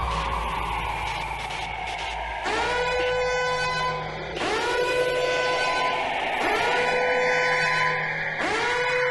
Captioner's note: the shrill noise of a siren blaring repetitively